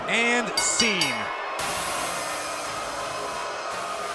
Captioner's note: bell